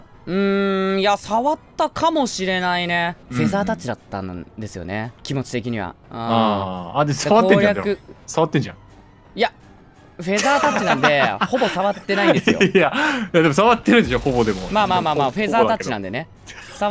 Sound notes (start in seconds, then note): 10.4 laughs